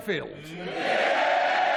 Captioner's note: cheering